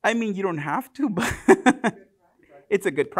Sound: chuckles

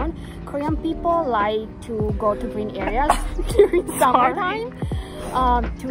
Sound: sneeze

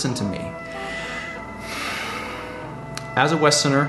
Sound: sighs

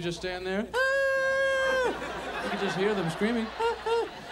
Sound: audience laughs

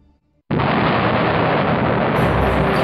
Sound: explosion

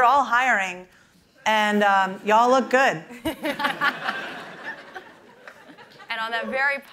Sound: laughter

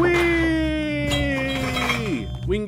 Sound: pinball sounds

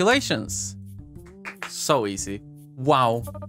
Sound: claps

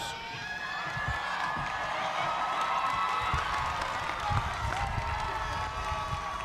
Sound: cheers and applause

